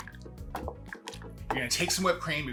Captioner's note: liquid sloshing